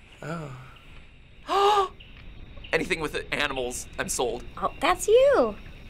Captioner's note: gasps